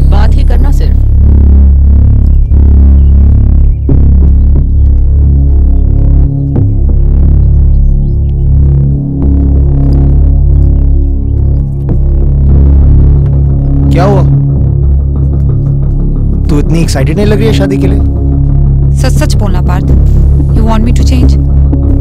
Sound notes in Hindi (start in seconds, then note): none